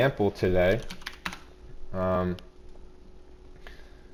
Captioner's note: keyboard clicking